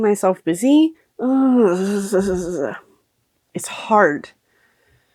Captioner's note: stimming sounds